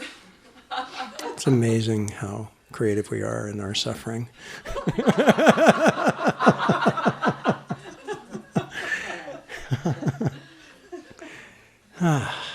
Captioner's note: laughter